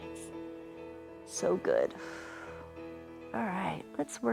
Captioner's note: exhales